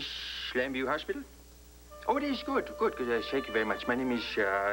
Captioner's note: disguised voice